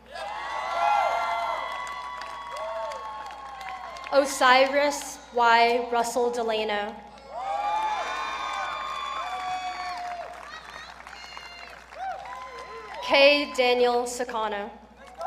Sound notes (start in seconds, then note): 0.0 audience cheering; 7.2 audience cheering